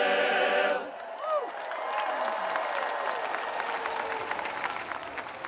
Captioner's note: audience applauding